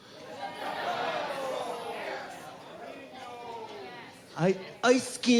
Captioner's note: crowd laughing; crowd chattering